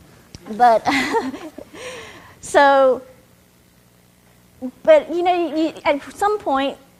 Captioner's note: chuckles